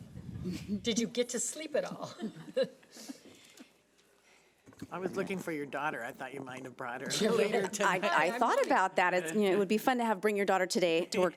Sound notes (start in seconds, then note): 0.3 people laughing; 7.1 laughing drowns out speaker